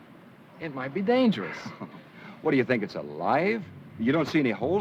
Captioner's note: chuckles